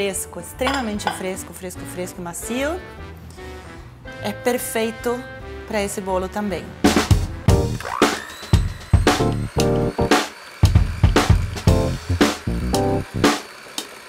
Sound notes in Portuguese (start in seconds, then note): 7.8 som da batedeira; 10.6 música animada